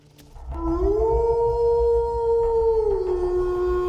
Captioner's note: wolf howling